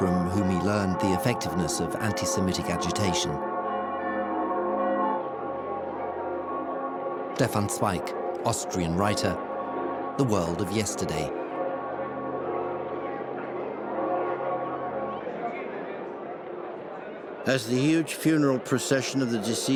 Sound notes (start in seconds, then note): 12.5 bells pealing; 12.5 chattering